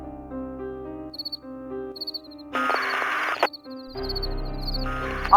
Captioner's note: crickets chirping